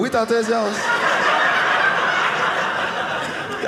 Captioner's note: audience laughing